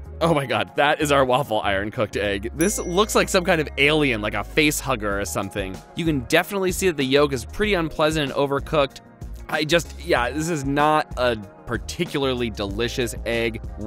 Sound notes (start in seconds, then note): 2.6 dings